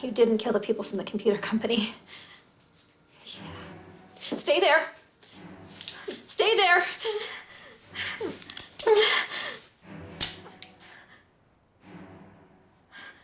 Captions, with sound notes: - BUT YOU DIDN'T KILL THE PEOPLE FROM THE COMPUTER COMPANY. YEAH. STAY THERE! STAY THERE. [whimpering] [gun clicks]